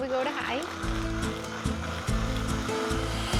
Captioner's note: blender whirs